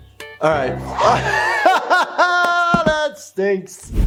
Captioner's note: laughing